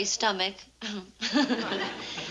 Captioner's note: chortles